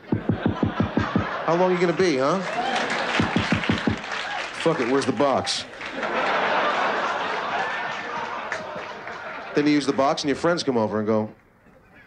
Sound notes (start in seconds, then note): 0.1 knocks; 2.5 laughter; 3.2 knocks; 5.8 laughter